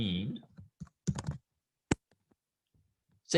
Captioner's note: typing